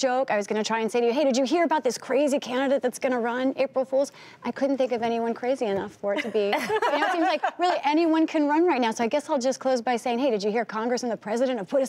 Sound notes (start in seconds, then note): 6.2 laughter